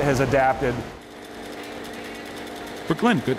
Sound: machinery engines humming

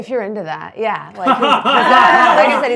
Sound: laughs

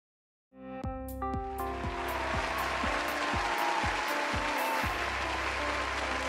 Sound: upbeat music; audience applauding

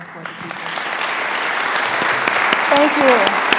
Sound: audience applauding

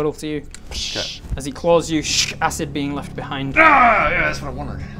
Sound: tsssxh

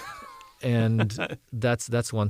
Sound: laugh

